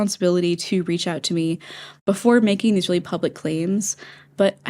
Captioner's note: inhale; inhale